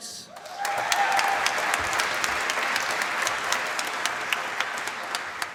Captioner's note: applause